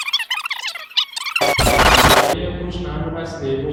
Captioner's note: audio glitches